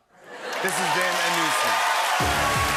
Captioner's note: laughter; cheering and applause